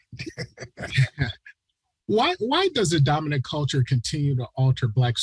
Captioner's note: chuckles